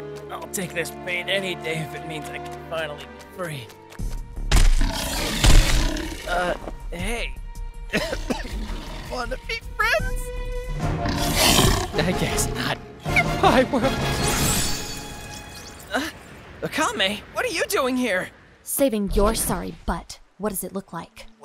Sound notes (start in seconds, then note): 4.5 heavy footsteps / roaring; 7.9 coughing